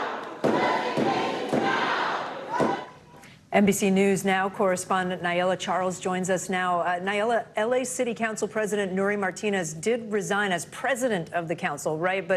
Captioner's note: chants